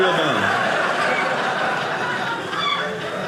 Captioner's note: audience laughing